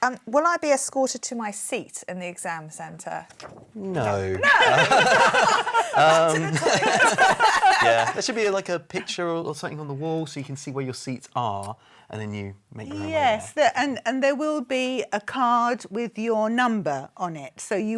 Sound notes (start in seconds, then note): 4.4 laughing